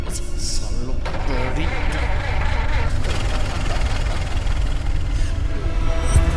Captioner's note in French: Rire sardonique; Bruit de moteur qui s'éloigne